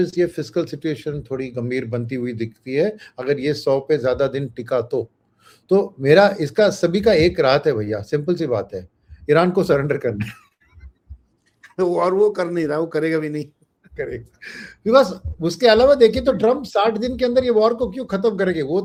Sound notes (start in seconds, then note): 5.9 nasal voice